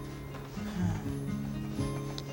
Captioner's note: sigh